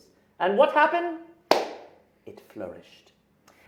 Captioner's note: claps hands